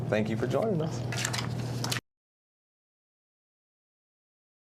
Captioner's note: papers rustling